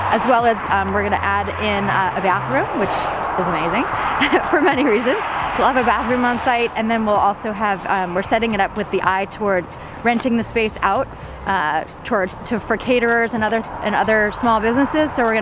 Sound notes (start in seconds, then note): 4.0 laughs